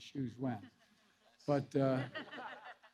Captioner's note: laughter